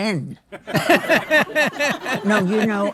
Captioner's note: laughing